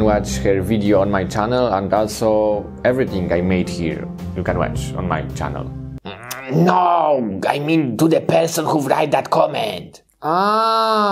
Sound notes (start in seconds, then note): 6.0 groaning